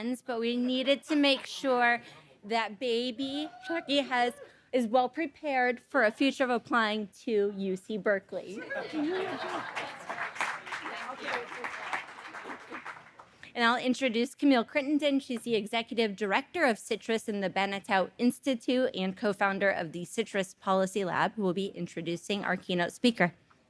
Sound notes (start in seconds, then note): 8.6 audience laughing; 10.7 audience applauding